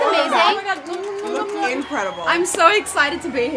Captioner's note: blowing air kisses